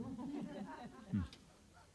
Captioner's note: laughter